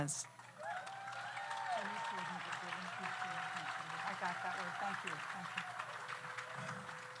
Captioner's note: audience applauds; audience cheers